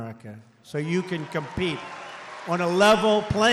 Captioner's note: applause